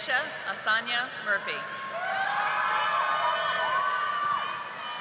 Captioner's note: audience applauding